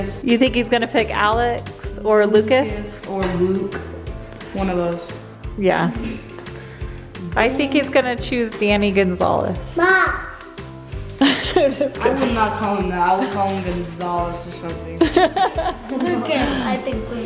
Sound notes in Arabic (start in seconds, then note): 11.2 يضحك; 15.0 يضحك